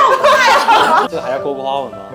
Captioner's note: A sigh of relief